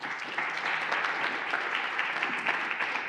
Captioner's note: applauding